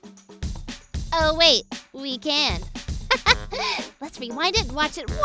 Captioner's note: giggles